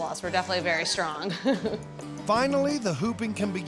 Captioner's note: laughing